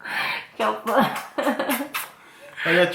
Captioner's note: kisses